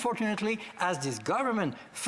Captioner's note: speaking French